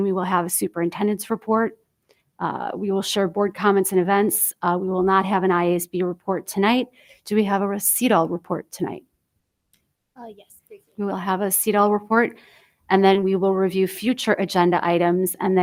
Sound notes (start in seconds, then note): 10.7 speaks faintly